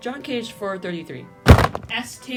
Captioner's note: slam